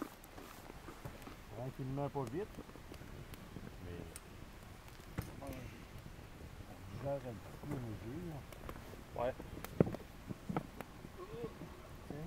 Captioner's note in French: discussion en français au bord du feu